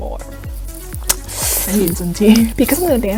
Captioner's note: smacks lips